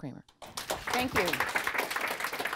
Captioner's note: audience applause